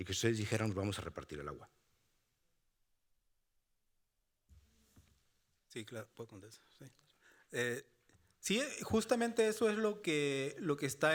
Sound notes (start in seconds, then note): 0.1 speaking Spanish continues; 5.9 speaking Spanish